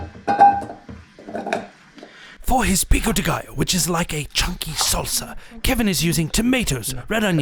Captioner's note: voiceover